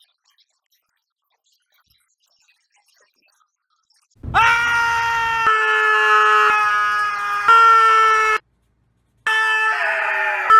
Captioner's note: screaming